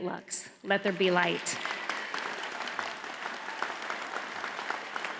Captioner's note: audience applauds